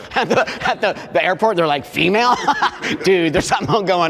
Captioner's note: laughs